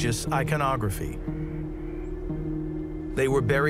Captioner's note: birds chirp; gentle suspenseful music